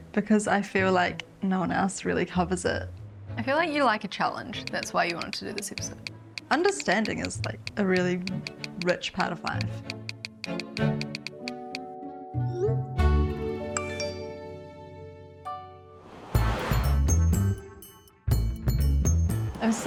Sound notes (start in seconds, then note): 9.5 bright music; 13.8 app beeps; 16.7 cheerful music